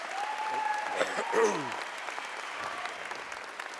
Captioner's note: applause